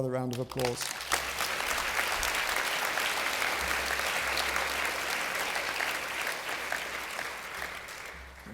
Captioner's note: applause